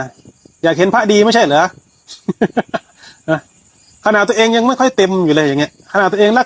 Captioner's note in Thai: เสียงหัวเราะ